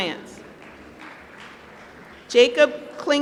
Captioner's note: applause